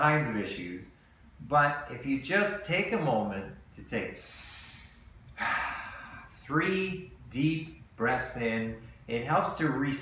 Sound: breathing in

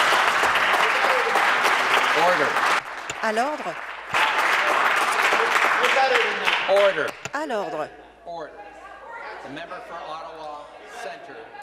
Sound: applause

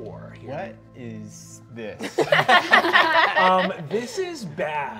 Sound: all laughing

